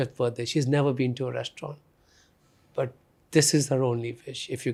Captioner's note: none